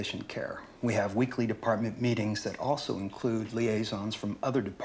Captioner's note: none